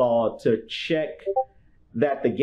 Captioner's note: Discord ping